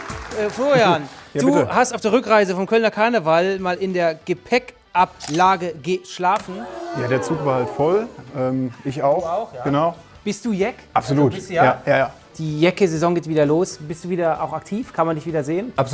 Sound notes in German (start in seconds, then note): 6.5 Bestürzte Laute